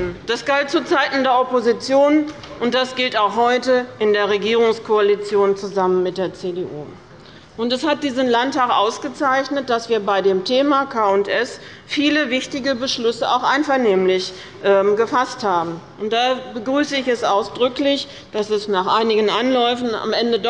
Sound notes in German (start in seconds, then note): none